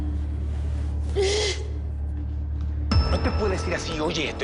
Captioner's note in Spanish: Sollozos